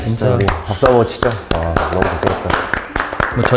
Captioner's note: A round of applause for themselves